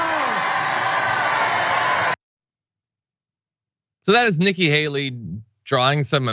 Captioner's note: applause